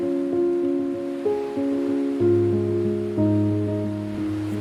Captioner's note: peaceful music; waves lapping